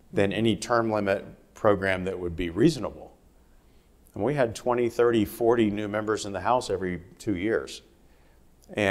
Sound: none

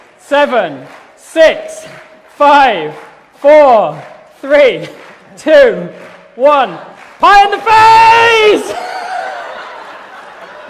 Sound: laughter and applause

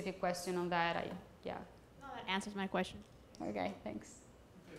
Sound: voiceover

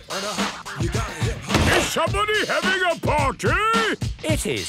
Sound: shouts

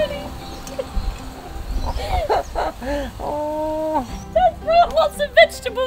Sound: laughing

